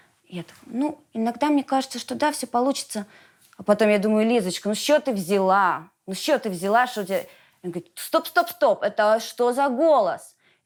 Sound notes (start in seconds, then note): none